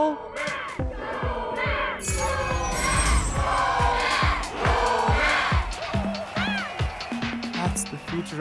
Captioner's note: crowd Chanting